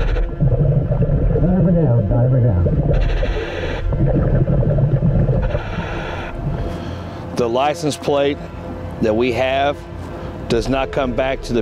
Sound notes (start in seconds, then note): 2.9 mouthpiece hissing; 3.8 ominous music continues